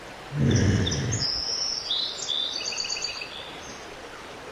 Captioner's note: woman groaning